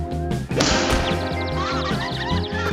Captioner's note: birds chirping